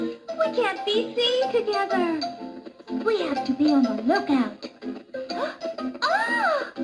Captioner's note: gasps